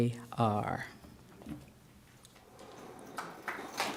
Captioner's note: ^applause^